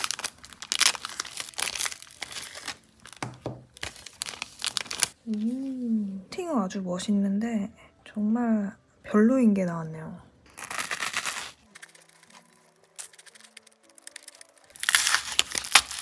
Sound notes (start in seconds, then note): 10.6 I was surprised by the sound of eating snack